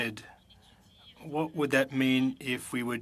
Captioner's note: speaking French